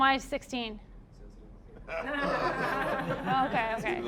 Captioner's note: audience laughing